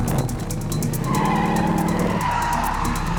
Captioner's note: tires squealing